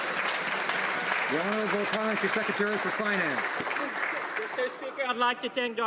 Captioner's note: some Applause